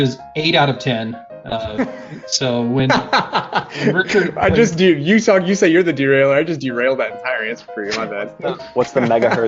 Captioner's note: laughing